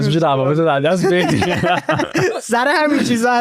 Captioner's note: laughs